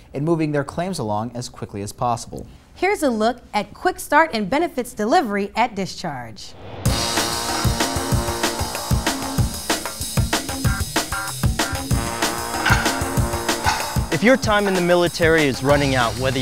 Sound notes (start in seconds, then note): 6.9 upbeat music; 13.6 clock ticking